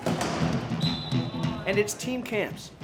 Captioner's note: whistle